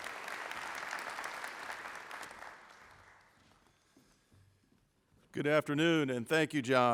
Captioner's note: applause